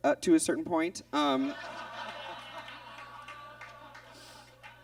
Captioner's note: audience laughs